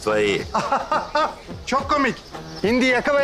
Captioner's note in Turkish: Gülme sesi